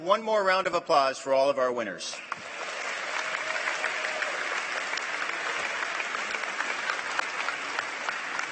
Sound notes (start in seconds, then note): 0.6 applause